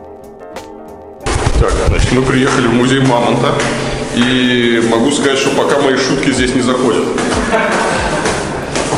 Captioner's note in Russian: злой смех